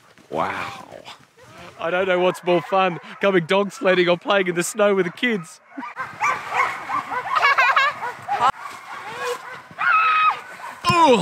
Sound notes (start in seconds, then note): 6.2 dogs barking; 7.7 laughing